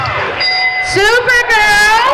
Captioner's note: dinging